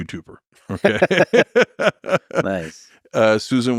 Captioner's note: both laughing